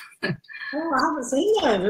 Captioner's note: laughs